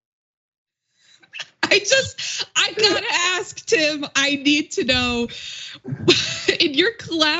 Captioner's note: laugh